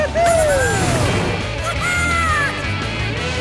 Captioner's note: squeaking